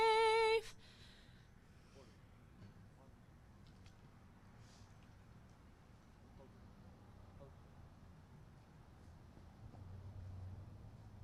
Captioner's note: silence